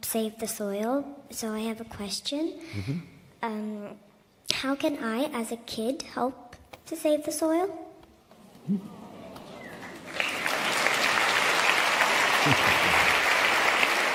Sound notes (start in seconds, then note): 11.9 applause